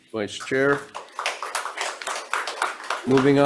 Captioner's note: audience applauds